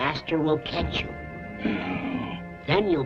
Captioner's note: grunt